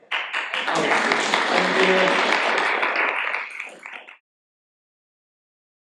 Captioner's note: audience applauding